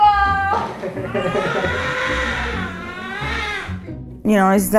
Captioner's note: baby crying